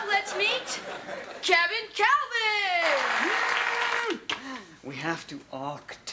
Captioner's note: prerecorded applause plays